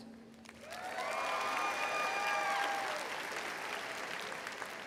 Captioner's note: audience cheering